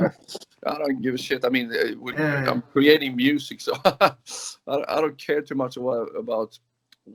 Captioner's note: laugh